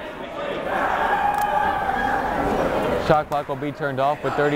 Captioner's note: chattering